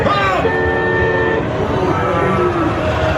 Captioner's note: horn honks; shrieks; machinery noises